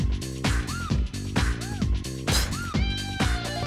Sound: <i> spits</i>

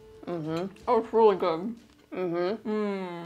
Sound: mouth full

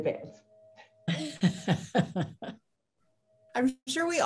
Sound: soft laughing

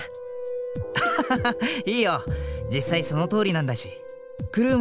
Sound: laugh

